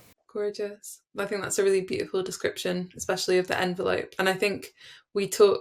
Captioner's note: none